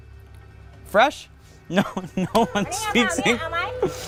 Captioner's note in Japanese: 英語